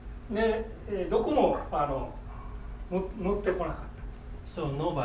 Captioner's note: speaking in foreign language